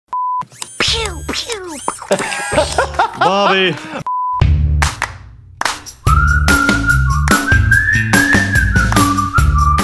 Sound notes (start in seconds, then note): 2.0 laughter; 5.7 upbeat music